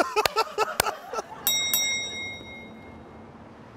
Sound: bell rings

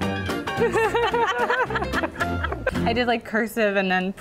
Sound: laugh

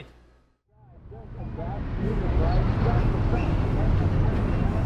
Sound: crowd chattering

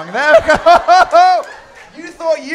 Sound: laughter

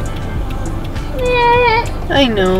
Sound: crying

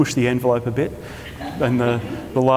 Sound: audience laughter

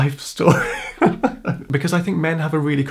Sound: laughing

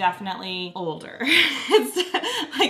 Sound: laughs

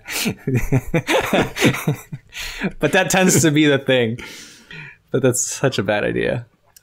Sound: laughter

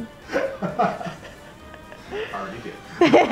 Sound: laughing

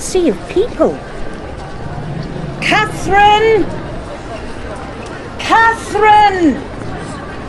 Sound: balcony door opening and sounds of crowd increase; shouting

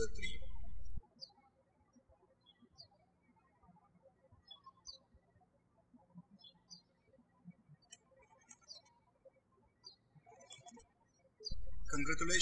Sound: birds chirping

